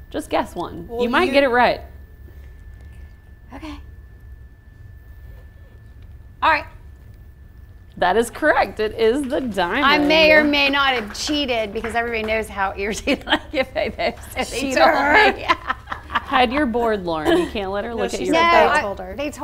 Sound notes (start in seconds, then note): 15.8 laughs